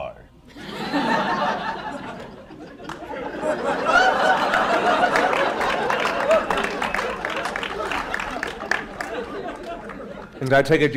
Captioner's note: laughter